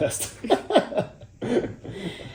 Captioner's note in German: Lachen